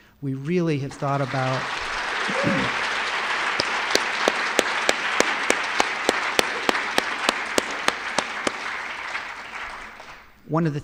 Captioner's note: applause